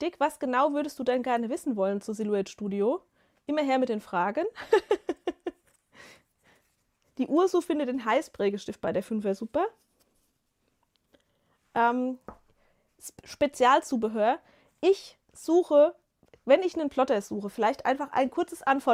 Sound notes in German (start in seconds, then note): 4.5 gelächter